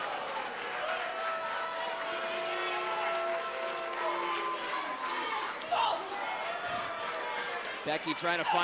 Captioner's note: crowd cheering